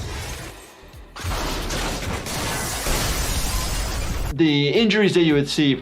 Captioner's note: car crashing